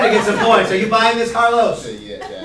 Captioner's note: laughter